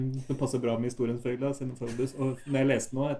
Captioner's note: laughs